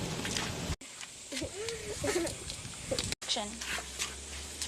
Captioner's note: laughing